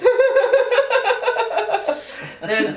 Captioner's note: both laugh